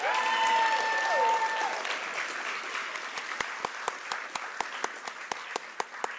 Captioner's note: applause